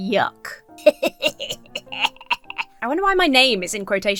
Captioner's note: laughs mischievously